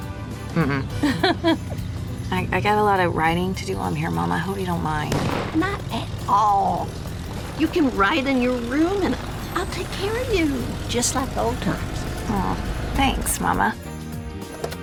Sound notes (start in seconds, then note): 0.5 ellie laughs; 5.1 car backfires